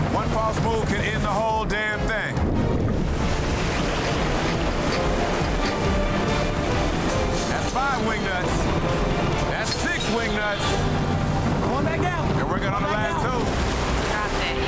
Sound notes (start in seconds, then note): 2.7 urgent music; 2.7 water gurgling; 14.0 water splashing